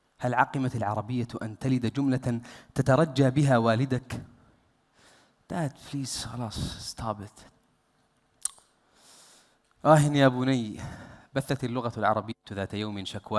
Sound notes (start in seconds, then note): 6.7 in English